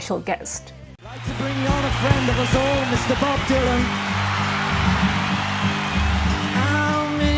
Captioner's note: crowd cheers